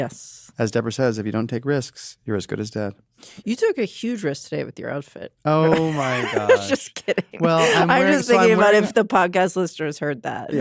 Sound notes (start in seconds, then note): 5.6 laughs